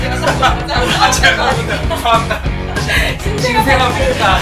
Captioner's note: lolololol